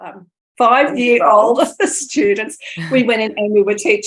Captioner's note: laughter